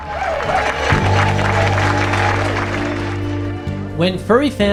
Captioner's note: audience claps